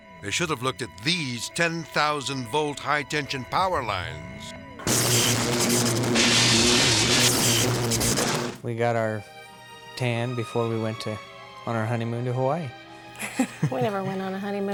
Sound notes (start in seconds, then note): 4.8 electricity buzzing; 13.2 chuckles